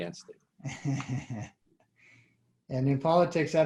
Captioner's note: laughing